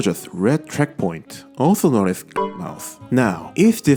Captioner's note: Windows chime sound plays